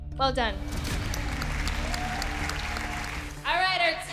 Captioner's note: applause